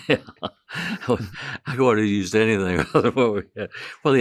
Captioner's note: laughing